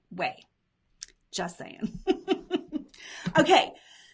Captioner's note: laughs